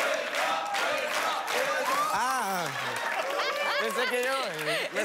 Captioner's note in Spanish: Exclamaciones; Risas